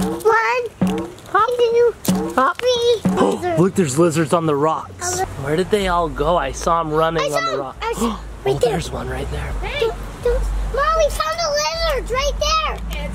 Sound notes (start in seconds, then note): 4.3 gasps